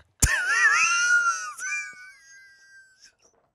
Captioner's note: laughs